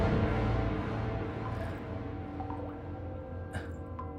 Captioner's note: water dripping